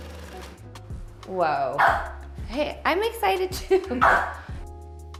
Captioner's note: driller whirring; dog barks